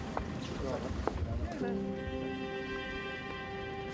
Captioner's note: quiet chatter in ukrainian